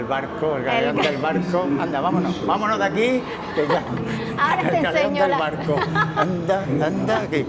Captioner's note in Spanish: carraspeo